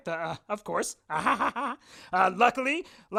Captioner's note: chuckles